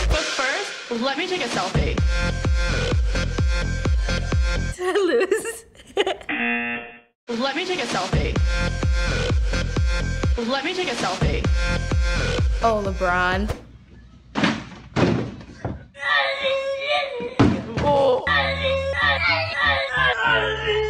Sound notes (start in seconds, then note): 1.7 EDM music; 4.8 laughing; 6.2 buzzer; 8.1 EDM music; 16.0 kid cheers wildly; 17.4 father groans; 17.8 kid cheers wildly on repeat; 20.6 voice in slow-mo